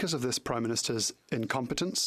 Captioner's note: speaking French